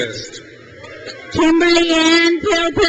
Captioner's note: crowd cheers